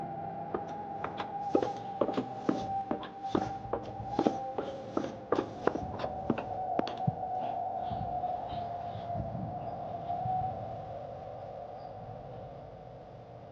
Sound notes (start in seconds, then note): 0.5 footsteps thumping